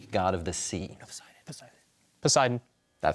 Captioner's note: whispers